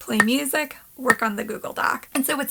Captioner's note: pop